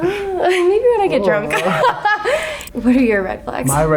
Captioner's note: laughs